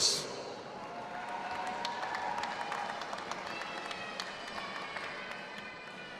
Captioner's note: audience applauding and cheering